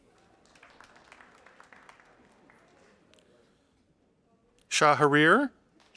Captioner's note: audience applauding